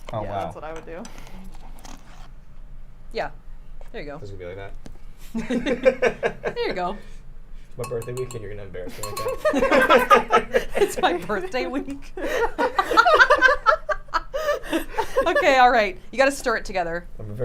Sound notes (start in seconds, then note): 5.3 laughs; 8.9 people laughing; 13.9 laughs